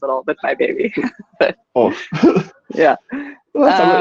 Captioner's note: laughing